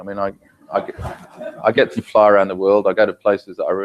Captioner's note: laugh